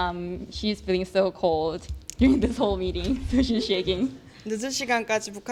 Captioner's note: laugh